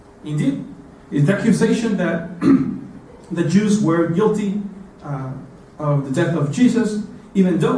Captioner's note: cough